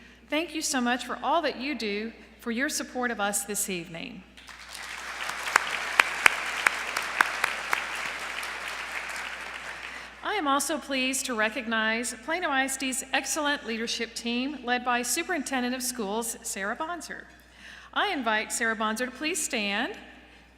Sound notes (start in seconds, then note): 4.4 applause